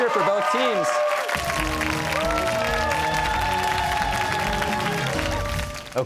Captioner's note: cheers and applause